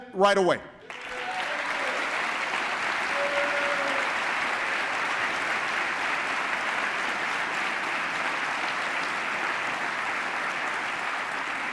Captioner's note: applause